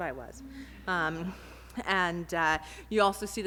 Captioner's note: audience laughter